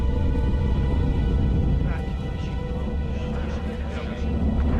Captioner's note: indistinct chatter